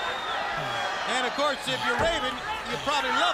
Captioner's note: crowd cheering